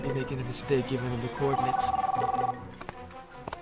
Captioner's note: phone ringing